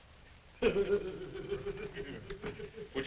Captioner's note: laughter